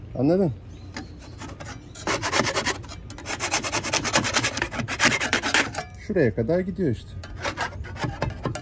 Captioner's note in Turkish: Kazıma sesleri